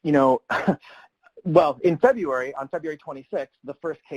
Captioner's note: chuckles